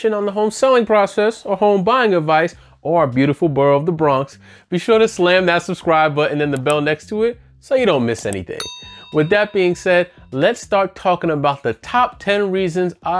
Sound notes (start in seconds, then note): 8.6 bell chimes